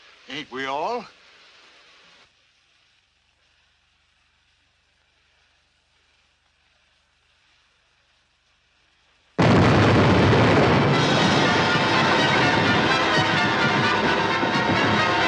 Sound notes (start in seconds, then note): 9.4 explosion; 10.4 chaotic music